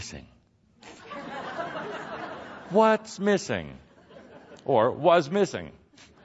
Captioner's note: some laughter